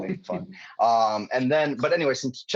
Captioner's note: laughing